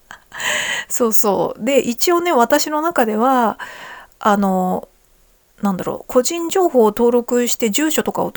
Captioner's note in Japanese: 息をのむ音